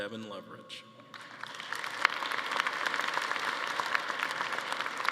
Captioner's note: attendees applauding